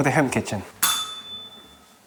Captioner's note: bell rings